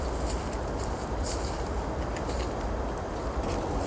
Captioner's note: forest Sounds